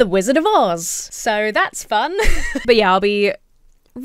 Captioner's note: laughs